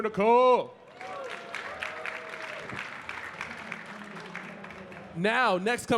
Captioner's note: audience cheering and clapping